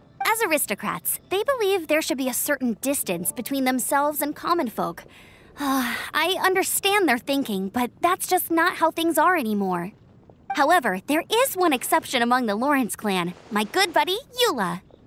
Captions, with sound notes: As aristocrats, they believe there should be a certain distance between themselves and common folk. *sigh* I understand their thinking, but that's just not how things are anymore. However, there is one exception among the Lawrence Clan. My good buddy — Eula!